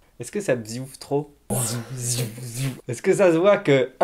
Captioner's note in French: bruitage amateur de sabre laser